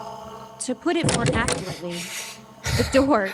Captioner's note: ragged breathing